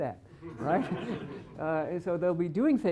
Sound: laughter

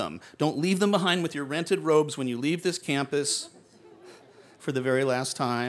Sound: laughter

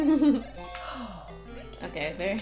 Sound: exhale

